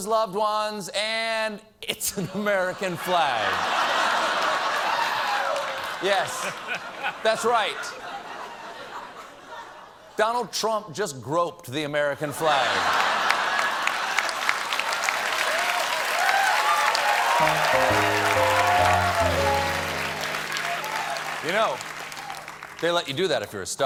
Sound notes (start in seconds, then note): 12.5 applause; 12.5 cheers and applause